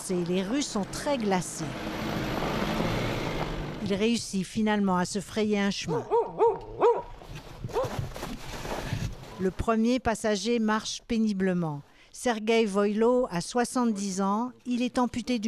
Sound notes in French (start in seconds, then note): 0.1 vrombissement; 5.8 aboiements du chien